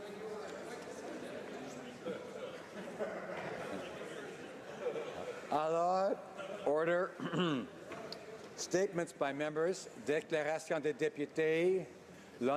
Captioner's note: speaking French